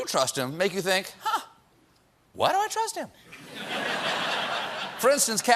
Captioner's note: laughter